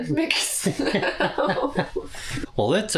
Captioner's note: laughter